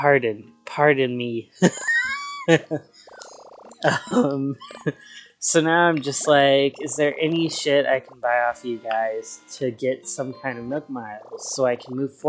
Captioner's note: laughs